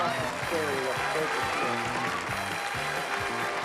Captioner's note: applause